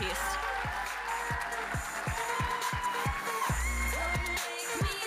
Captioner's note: audience cheering and applauding